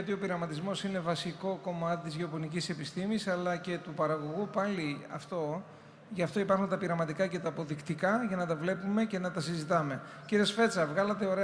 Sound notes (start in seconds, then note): none